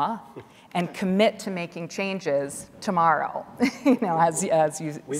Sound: laughing

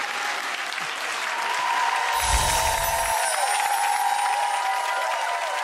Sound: clapping and crowd cheering

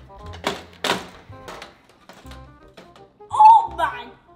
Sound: playful music; assembly sounds

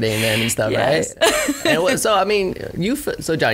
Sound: laughs

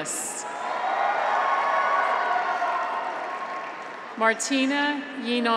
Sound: graduates cheer; audience applauds

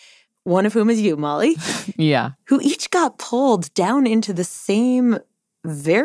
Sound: laughs

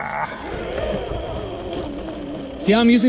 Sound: bike whirring

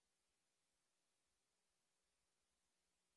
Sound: none

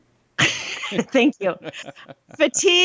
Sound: laughs

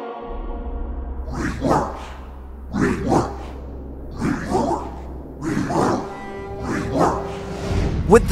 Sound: chanting

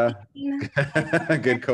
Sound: laughs

